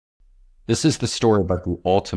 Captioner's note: voiceover